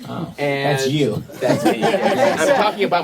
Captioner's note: laughter